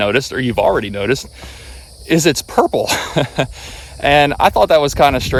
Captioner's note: chuckles